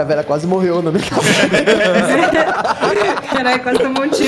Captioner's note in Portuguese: Todos riem